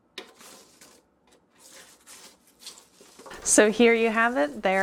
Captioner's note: crackling